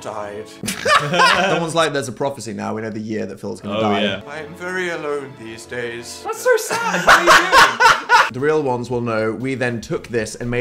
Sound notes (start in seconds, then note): 0.6 laughing; 6.6 laughs